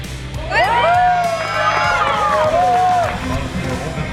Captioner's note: cheering